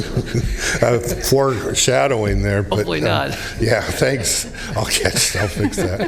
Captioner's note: laughing